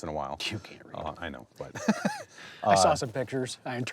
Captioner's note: laughs